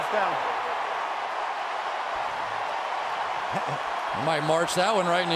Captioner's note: crowd cheering